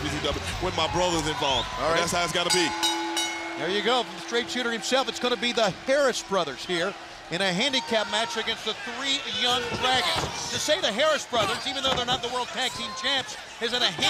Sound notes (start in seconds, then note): 5.1 bell ringing